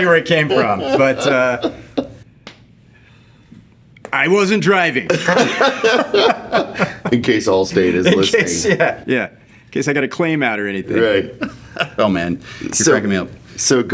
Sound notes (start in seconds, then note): 0.1 laughing; 7.8 laughing